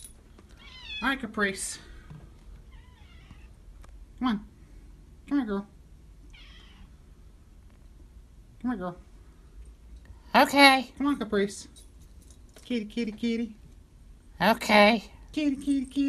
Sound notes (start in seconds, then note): 6.3 Caprice continues meowing